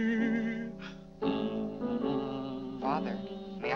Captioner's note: Mr. Day hums